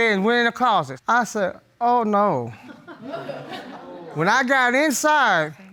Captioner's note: audience tittering